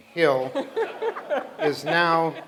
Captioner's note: laughter